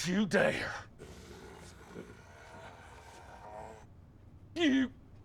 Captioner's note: growling